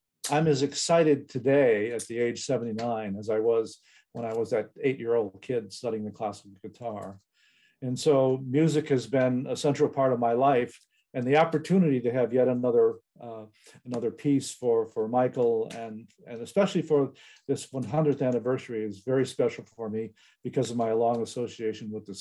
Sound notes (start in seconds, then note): none